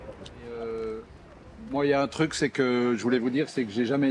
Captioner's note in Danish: på fransk